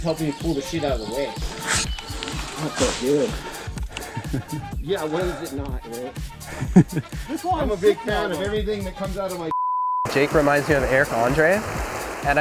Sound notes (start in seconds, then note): 9.5 beeps